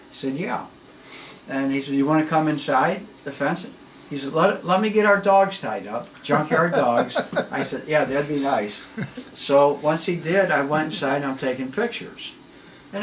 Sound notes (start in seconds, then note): 6.1 laughs